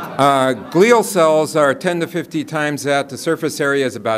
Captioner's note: laughter